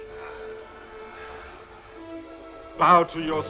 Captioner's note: men grumbling